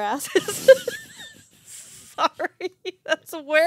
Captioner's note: laughing